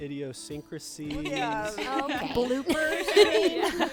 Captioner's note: group laughing